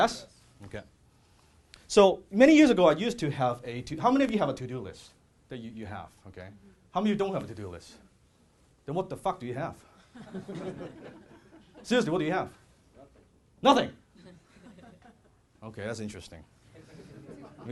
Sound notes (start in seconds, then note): 10.2 laughing; 16.8 laughing